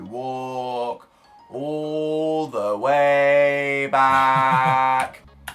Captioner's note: chuckles